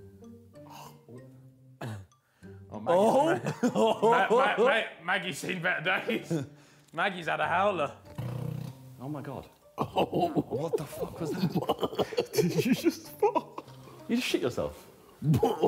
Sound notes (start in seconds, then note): 0.7 Ethan gasps; 8.0 Tobi Farts; 12.1 man laughs